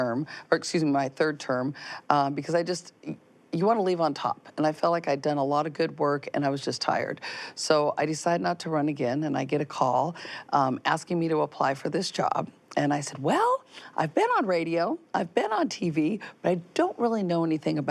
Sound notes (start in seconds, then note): none